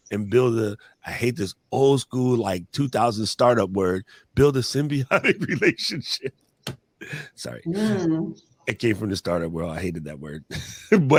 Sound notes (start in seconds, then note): 4.9 laughs